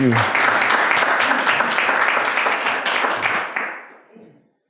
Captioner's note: audience applauding